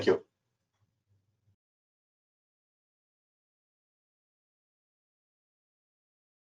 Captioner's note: silence